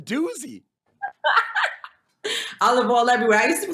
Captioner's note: laughs